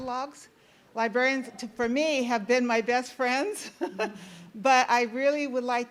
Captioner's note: laughs